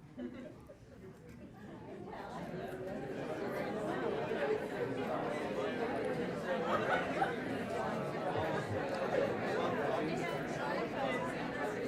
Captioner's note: audience speaking amongst themselves